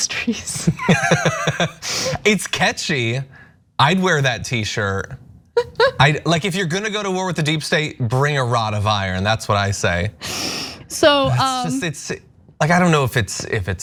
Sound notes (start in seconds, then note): 0.8 laugh; 5.6 laugh